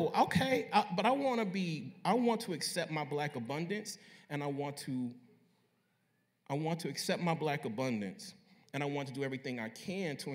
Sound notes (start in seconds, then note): none